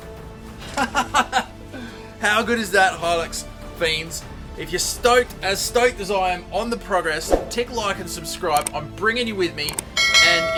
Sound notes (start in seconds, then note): 0.6 laughing